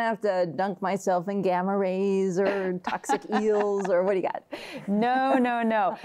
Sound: laughs

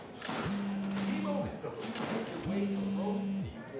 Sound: phone buzzing

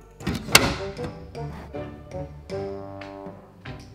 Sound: shutter shuts

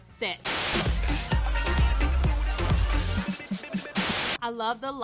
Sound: lively dance music; TV static hisses

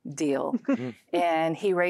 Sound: giggling

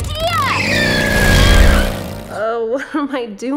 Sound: wheels squeal

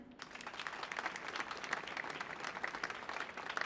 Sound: applause

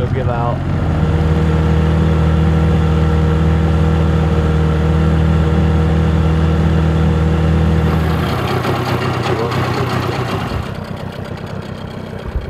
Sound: boat motor

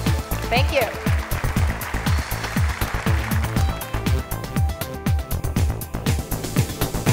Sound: upbeat music; audience applauds

